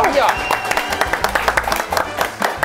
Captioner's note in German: Jubel, Applaus